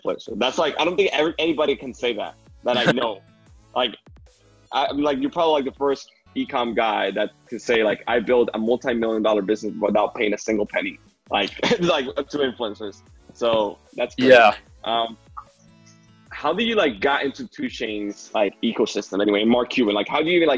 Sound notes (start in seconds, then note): 11.4 laughter